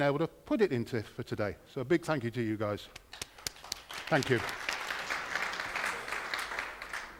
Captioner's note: applause